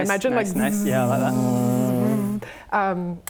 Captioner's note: zzzzzzzzzzzzzz